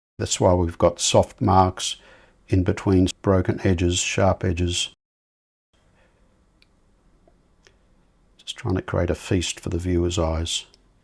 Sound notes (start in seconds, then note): 5.7 silence